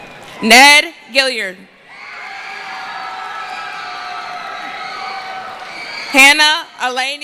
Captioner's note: cheering; screaming